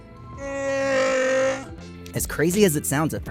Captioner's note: roars